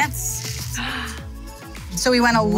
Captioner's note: gasps